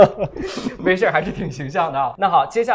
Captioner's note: laughs